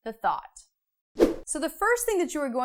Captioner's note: frame whooshes